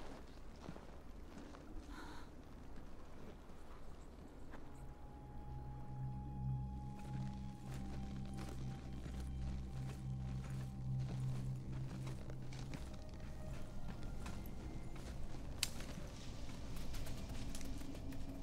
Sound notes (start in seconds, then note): 6.2 grim music playing; 15.5 twig snaps